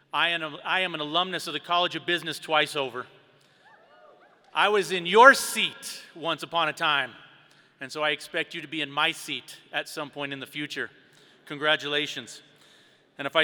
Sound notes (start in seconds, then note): 3.7 students cheering